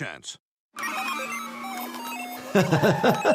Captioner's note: video game beeping; laughing